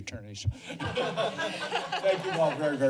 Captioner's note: laughter